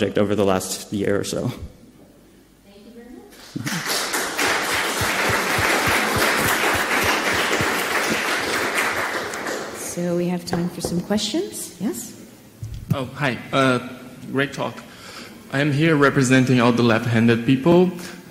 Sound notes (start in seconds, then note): 3.4 audience applauding